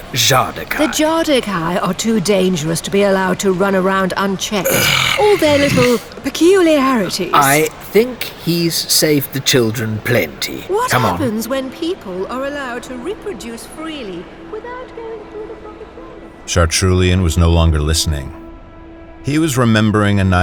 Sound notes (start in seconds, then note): 4.6 Chartrulean growls in restraint; 16.4 voices fade out and becomes audible